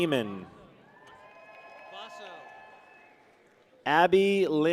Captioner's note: people cheer